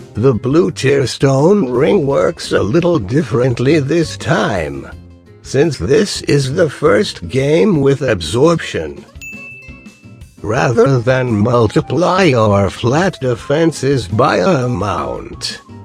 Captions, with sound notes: The Blue Tearstone Ring works a little differently this time. Since this is the first game with absorption, [Ding noise] Rather than multiplying our flat Defenses by an amount,